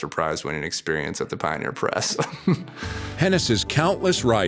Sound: laughs

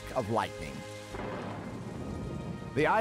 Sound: thunder rumbles

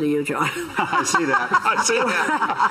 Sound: all laughing

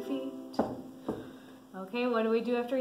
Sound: stomping

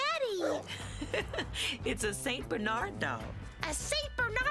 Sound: laughs

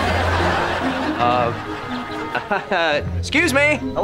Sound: chuckles

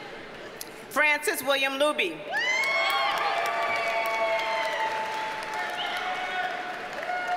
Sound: audience cheers and applauds

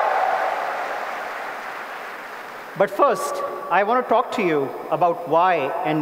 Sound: applause

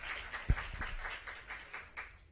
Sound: applause

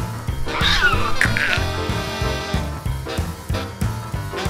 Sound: cat screeching

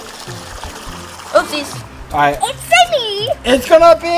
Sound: water splashing

